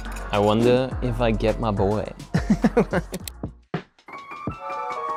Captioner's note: chuckles; lighthearted music